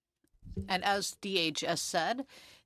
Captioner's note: speaking French